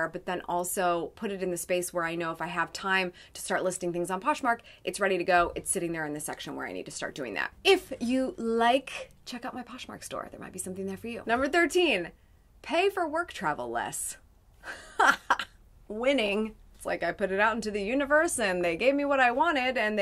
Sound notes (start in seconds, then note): 14.6 laughs